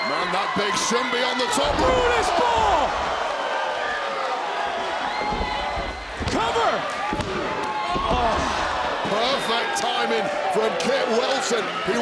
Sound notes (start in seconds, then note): 3.3 audience cheering